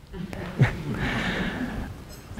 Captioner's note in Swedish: skratt